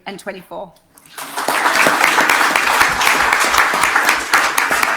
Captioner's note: audience applauding